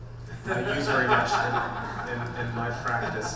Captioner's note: laughing